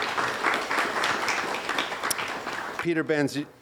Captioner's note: applause